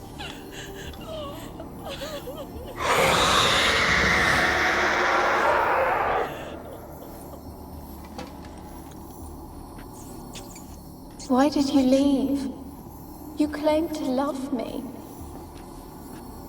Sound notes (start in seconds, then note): 0.0 sobbing; 2.7 ghostly, raspy screech; 11.4 forlornly